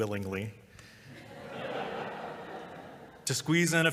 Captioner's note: laughter